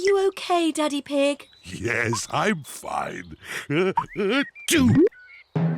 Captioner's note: sneezes